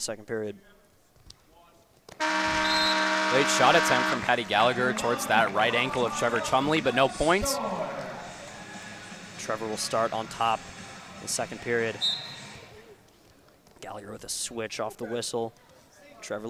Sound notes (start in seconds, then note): 6.1 air horn